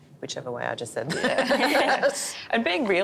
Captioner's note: laughing